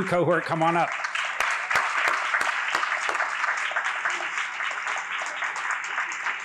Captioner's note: applause